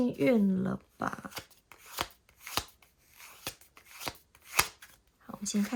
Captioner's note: drawing cards